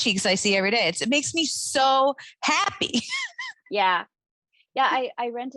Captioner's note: laughing